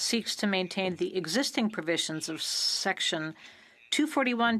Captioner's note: speaking French